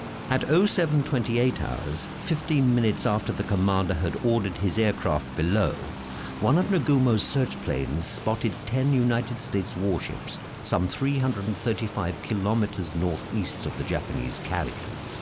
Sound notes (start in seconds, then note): none